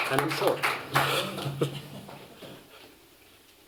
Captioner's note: chuckling